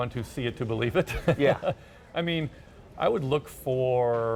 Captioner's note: chuckles